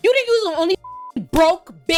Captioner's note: beep